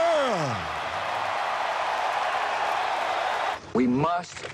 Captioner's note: applause